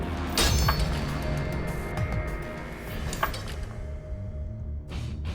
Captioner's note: crashing